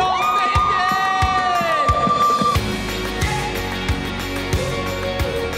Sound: cheering; upbeat lively music

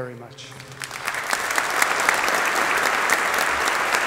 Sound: audience applauding

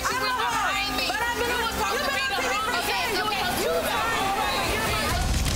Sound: everyone shouting and chattering

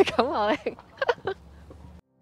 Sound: laugh

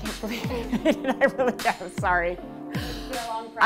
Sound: laughing

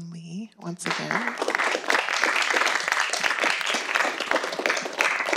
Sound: audience applauds

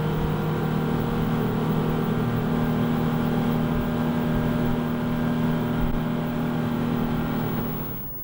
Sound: power engine running

